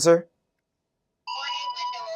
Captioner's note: chime